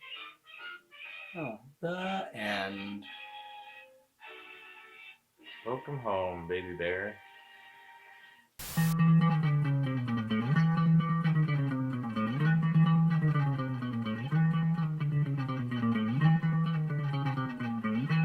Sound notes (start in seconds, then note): 8.6 static crackles; 8.6 upbeat music